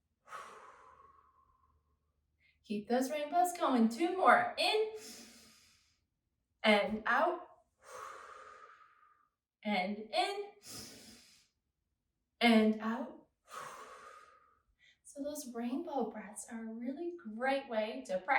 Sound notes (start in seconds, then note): 0.2 exhales; 5.0 inhales; 7.8 exhales; 10.8 inhales; 13.5 exhales